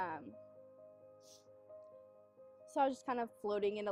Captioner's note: sniff